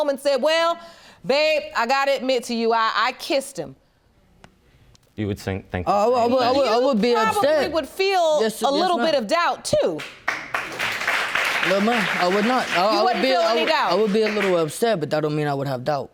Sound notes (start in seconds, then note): 10.0 audience applauding